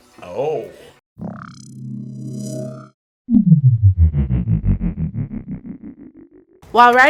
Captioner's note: ominous hum